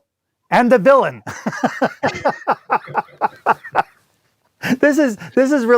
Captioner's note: laughs